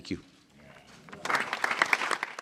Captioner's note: applause